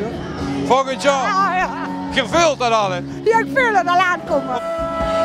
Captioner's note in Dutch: lacht